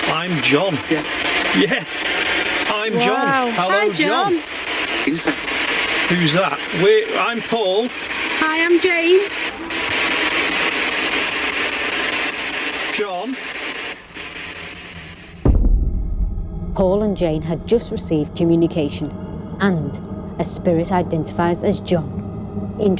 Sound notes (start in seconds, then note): 4.9 Ovilus speaking